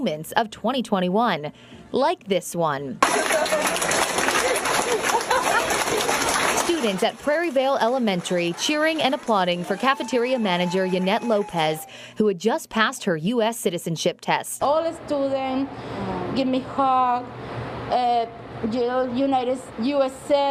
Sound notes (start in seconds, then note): 8.8 applause